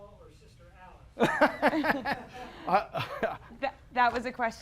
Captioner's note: laughter